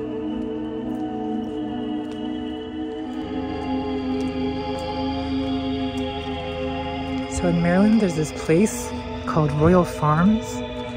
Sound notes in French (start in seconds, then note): 2.2 des pas résonnent